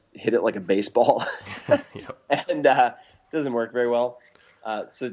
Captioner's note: laughs